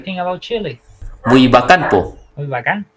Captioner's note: Spanish